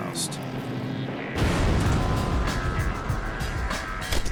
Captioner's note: explosion